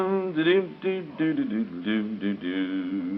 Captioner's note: humming